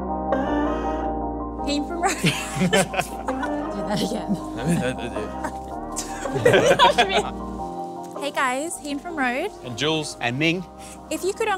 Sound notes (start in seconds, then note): 2.0 laughing